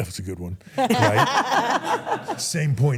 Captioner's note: everyone laughs